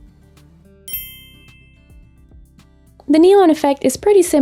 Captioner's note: bell dings